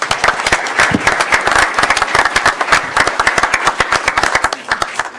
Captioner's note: applause